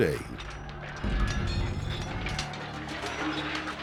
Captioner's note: shields clattering